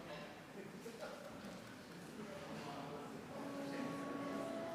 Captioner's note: people chatting